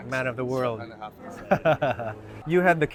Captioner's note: laughs